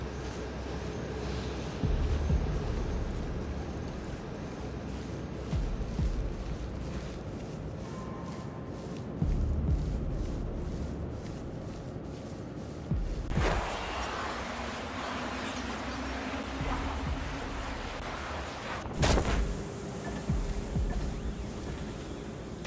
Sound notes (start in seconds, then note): 10.2 whooshing